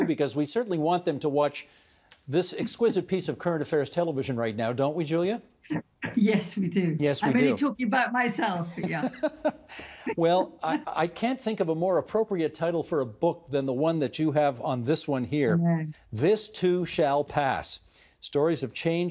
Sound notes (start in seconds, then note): 2.6 laughing